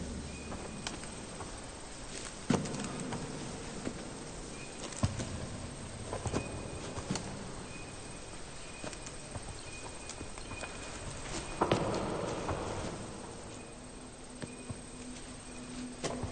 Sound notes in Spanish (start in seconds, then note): 0.1 Trinos; 4.3 Trinos